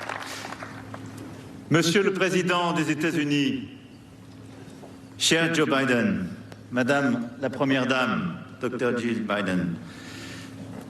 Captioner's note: speaking global language